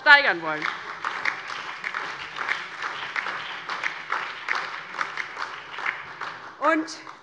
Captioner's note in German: Beifall DIE LINKE und vereinzelt BÜNDNIS 90/DIE GRÜNEN-Zurufe Freie Demokraten